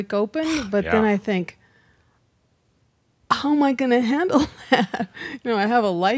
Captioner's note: she chuckles